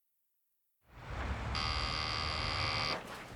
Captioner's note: doorbell buzzing